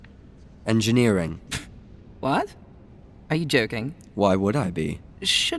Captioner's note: scoffs